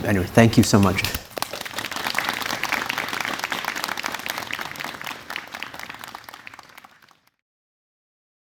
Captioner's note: audience Applauding